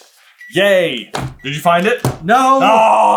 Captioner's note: gentle beeping